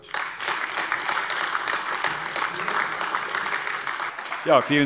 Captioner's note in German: Beifall AfD